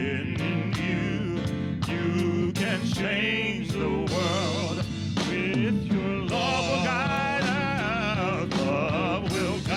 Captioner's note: humming